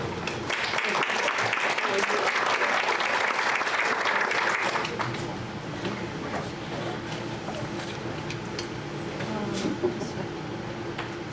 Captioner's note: clapping